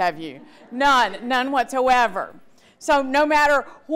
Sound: audience laughter

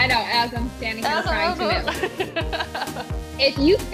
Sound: laughs

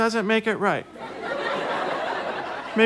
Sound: audience laughter

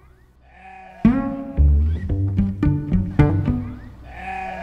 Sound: pizzicato string music; sheep bleating

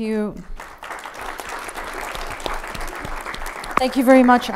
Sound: audience applauding

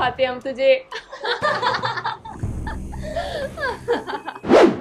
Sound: laughing

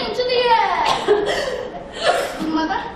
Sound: Sylvia coughing

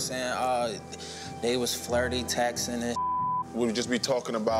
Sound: beep

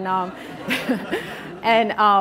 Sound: audience laughing

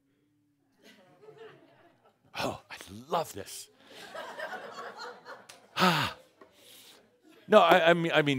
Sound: some chuckles

